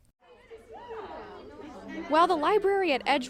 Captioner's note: students chatting